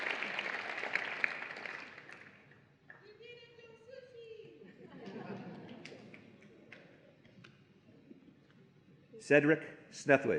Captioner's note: applause and Cheering